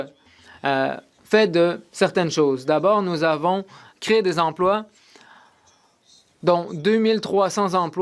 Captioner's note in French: voix de l'interprète